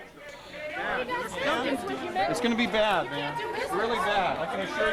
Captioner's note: chatter